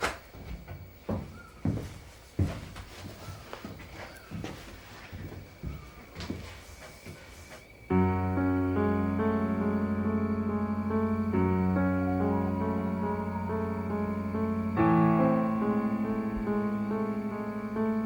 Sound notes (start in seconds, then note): 7.9 mysterious music; 11.3 owl calling